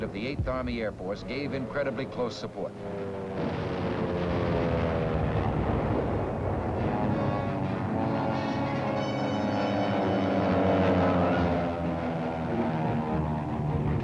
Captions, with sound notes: the Eighth Army Air Force gave incredibly close support. (explosions) (plane engines roaring by)